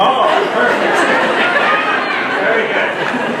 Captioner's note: laughter